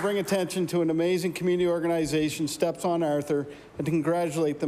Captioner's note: applause